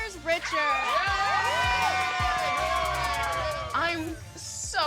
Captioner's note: cheering